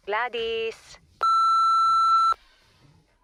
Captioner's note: beeping